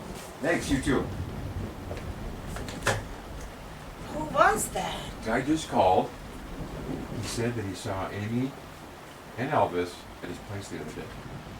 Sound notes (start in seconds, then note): 2.6 phone receiver clacks